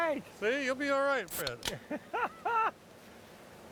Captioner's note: laughing